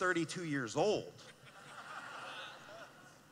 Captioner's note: laughing